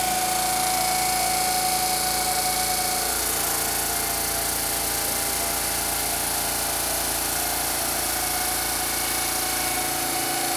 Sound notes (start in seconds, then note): 4.8 CNC machine rumbling